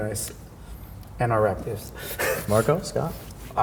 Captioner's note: laughs